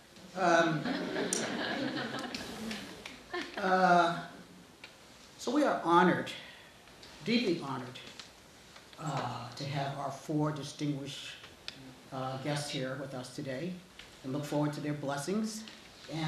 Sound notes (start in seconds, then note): 0.5 audience laughing